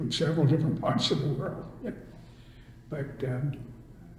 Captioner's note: laughs